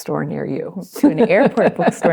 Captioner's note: laughs